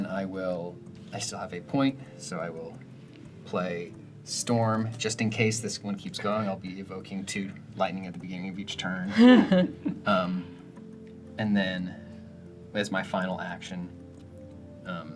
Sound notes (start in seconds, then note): 9.1 laugh